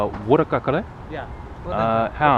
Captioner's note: somali